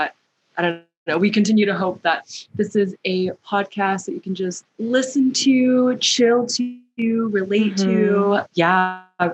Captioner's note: mhmm